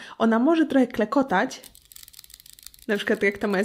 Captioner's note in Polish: Klekotanie